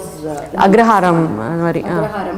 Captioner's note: in Tamil